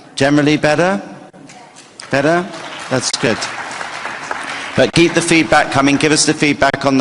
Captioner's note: applause